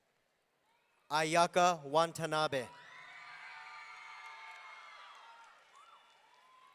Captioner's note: audience cheering